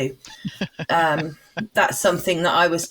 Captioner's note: laughs